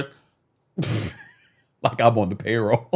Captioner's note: laughing